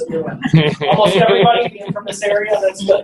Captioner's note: laughing